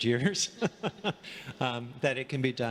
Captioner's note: laughing